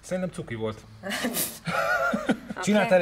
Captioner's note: laughs